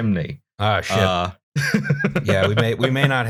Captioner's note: laughter